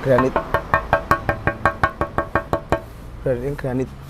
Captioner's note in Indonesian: suara ketukan